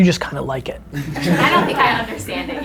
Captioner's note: group laughter